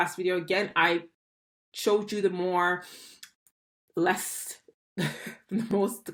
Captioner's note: chuckles